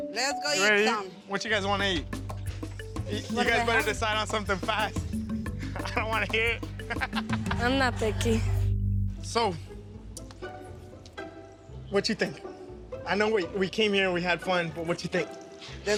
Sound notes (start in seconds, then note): 4.9 laughing